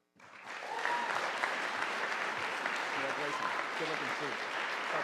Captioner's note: audience applauding